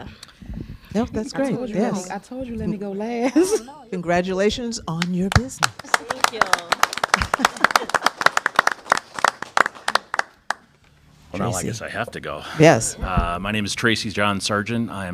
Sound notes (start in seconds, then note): 3.2 laughter; 9.5 applause